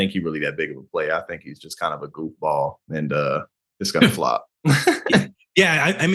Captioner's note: laugh